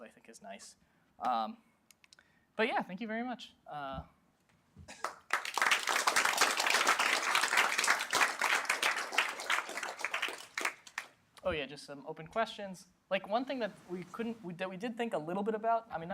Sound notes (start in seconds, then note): 5.0 applause